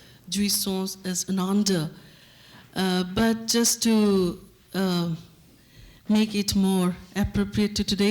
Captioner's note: non-english speech